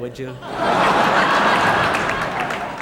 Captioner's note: audience laughing; audience clapping